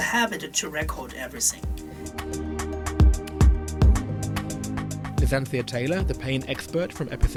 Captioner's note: voiceover